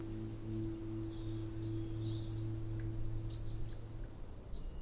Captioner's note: birds chirping